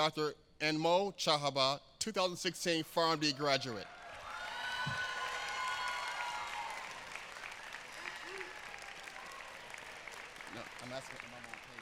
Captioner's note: applause